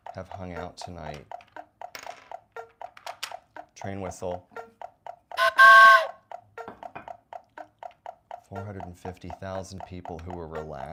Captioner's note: train whistle sound effect